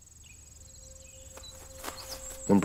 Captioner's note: birds chirping